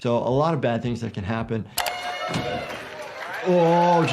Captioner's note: people cheer